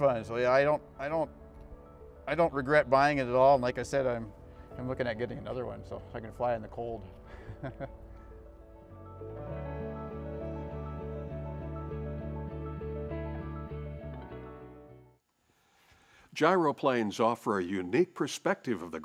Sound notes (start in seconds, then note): 7.3 laughs; 8.7 gentle music